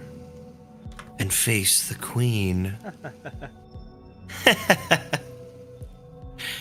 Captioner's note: laughs